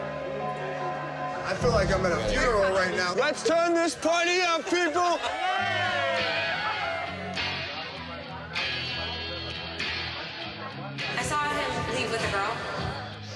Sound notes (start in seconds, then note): 5.2 crowd cheering; 7.0 guitar music